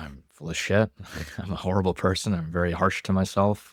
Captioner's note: laughs